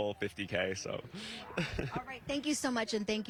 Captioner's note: laughter